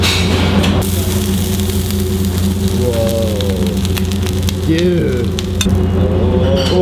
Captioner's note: cooking sounds